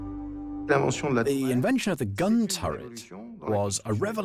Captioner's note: voiceover